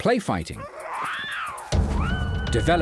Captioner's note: monkey shriek